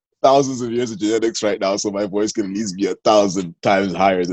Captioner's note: laughter